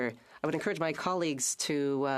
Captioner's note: speaking French